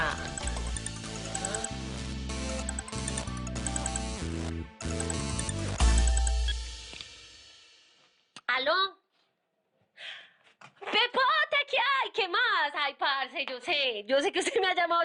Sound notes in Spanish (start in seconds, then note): 2.2 Sigue sonando el celular; 7.3 Bip